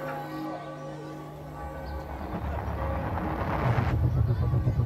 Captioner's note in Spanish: campanadas